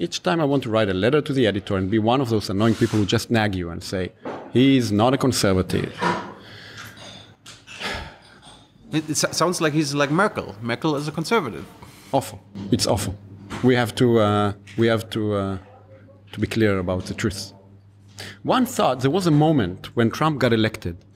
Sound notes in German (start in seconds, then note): 7.8 seufzt